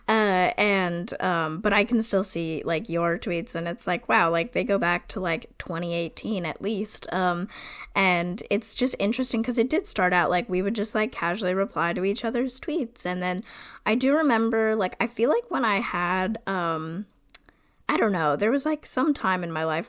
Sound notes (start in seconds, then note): none